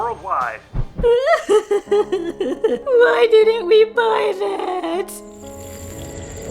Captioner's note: sobbing; somber music